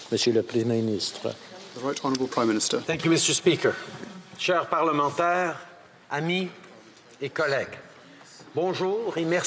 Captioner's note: speaking French